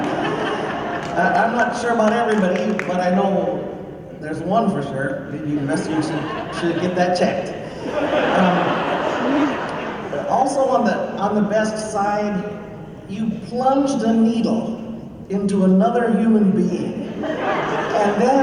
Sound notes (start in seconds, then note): 7.9 laughter